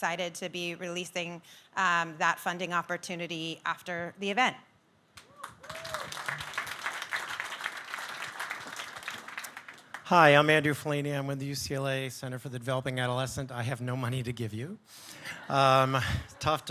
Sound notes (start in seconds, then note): 5.2 audience clapping